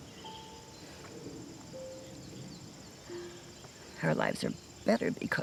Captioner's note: gentle music; birds chirping